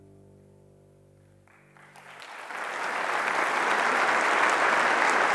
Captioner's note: applause